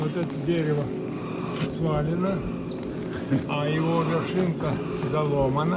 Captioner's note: speaks in a foreign language